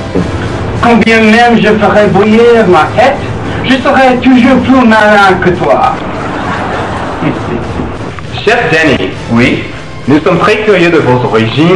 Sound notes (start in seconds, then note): 6.0 chuckles